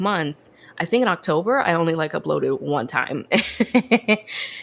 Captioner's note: laughs